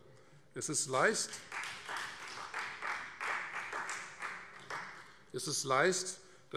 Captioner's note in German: Beifall Freie Demokraten